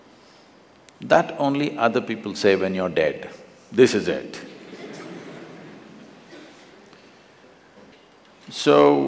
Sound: laughter

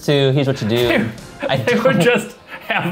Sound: laughing

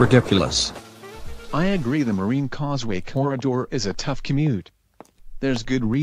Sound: walking

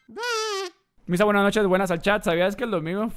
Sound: in Spanish

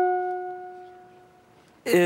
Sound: ding

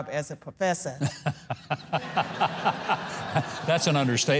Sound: audience laughing

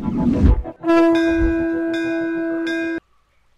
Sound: temple bell rings

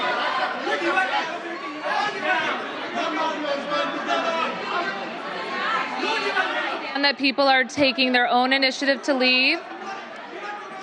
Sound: crowd shouting

